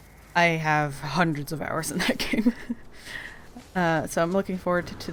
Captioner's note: laughing